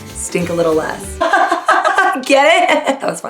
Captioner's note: laughter